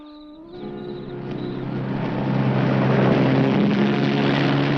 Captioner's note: engine rumbling